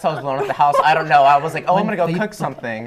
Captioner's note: laughter